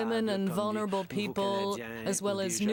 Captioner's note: speaking French